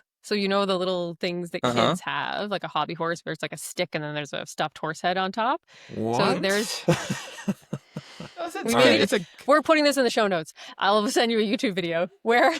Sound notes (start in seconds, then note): 6.4 laughter